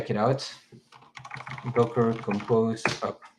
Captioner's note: keyboard clicks